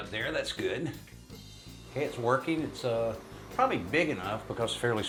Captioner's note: fan whirring